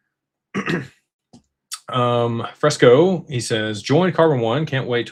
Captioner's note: clears throat